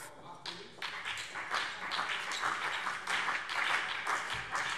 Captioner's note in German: Beifall BÜNDNIS 90/DIE GRÜNEN und CDU